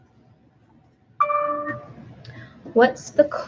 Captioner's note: computer dings